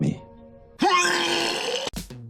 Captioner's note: retching